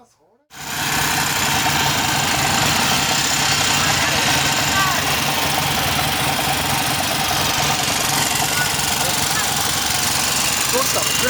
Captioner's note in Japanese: エンジンの音